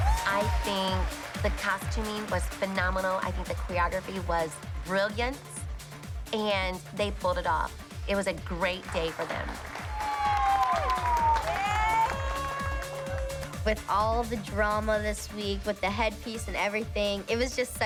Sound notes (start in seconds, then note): 10.4 cheers and applause